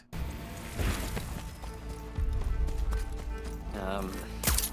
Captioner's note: gameplay playing